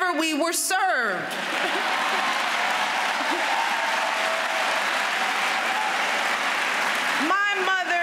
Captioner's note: applause